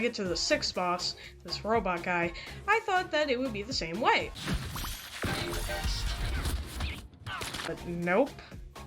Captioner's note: crashes